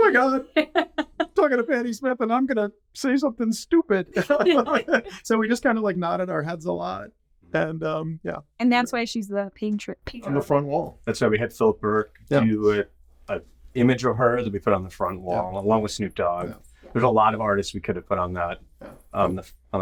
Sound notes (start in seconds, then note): 4.1 all laughing